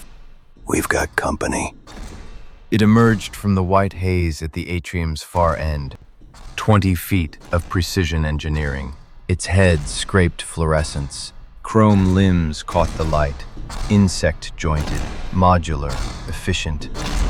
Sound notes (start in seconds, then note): 2.6 SFX: Giant mechanical stomping, closing in